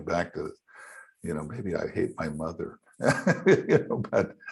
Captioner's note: laughing